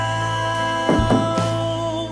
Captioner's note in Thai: เสียงปิดประตู